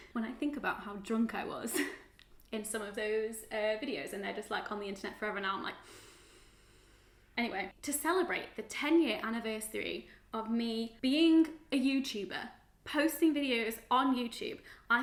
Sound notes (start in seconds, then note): 5.8 breaths in heavily